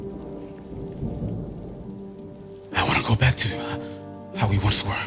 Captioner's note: thunder rumbles; rain patters